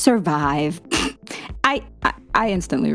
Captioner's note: snickering